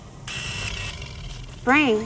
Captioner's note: arms whirring